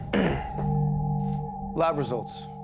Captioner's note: Bailey clears throat